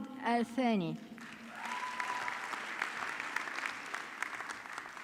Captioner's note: audience clapping